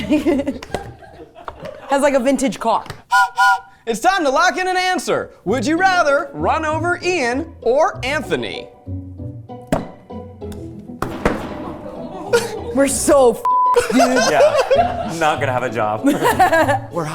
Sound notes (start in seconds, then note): 0.0 laughs; 0.2 crew laughing; 3.1 train whistle blowing; 8.5 light music; 11.0 levers banging; 13.7 laughing